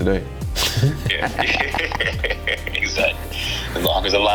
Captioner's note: laughter